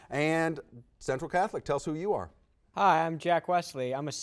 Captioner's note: none